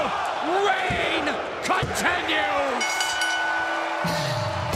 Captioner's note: bell ringing; crowd cheering